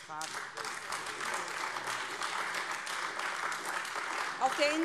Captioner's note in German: Beifall AfD